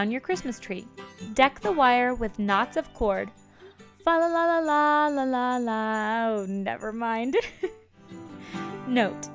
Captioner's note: giggles